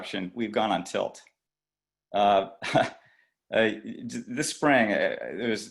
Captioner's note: laughter